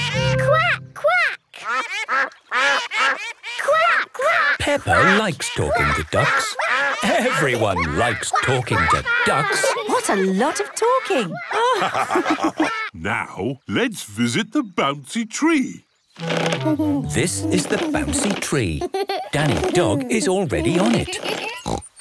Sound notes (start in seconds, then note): 1.6 quacking; 11.8 all laugh; 20.6 snorts